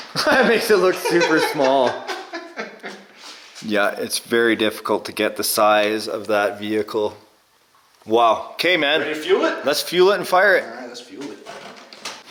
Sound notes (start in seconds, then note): 0.1 laughing